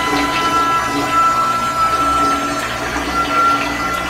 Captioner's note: toilet continues to wail